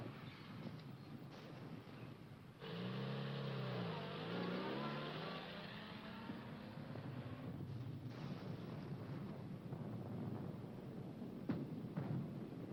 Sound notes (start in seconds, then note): 8.0 bombs exploding